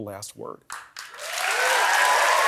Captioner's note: applause